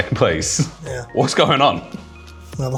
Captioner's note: chuckles